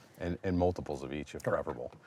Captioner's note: none